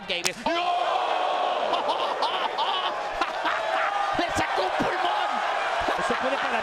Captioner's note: laugh